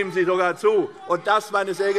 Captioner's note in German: Zurufe - Glockenzeichen